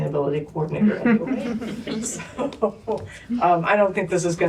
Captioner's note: laughter